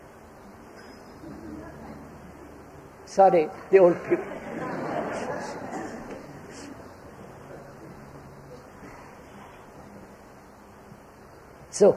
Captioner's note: laughter